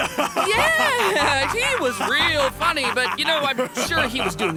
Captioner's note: continues laughing; laughing; continues laughing